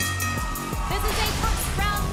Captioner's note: bell ringing